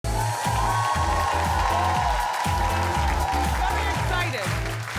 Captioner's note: audience cheering wildly